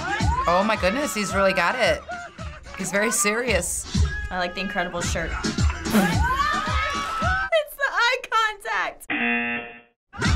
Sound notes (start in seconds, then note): 0.0 funky Latin music; 9.1 buzzer